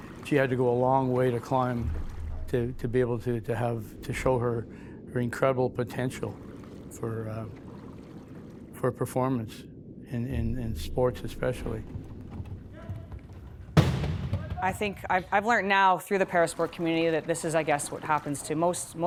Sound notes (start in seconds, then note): 13.3 chairs loudly crashing